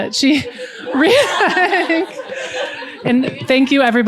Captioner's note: laughter